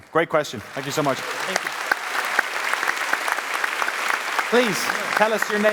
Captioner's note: applause